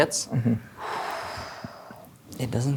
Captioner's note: exhales